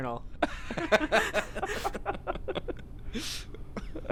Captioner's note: laughing